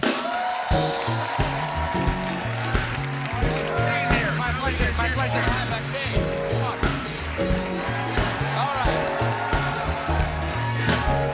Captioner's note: cheers and applause